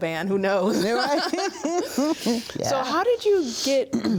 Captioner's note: laughing